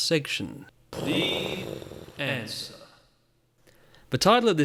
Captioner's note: pwooom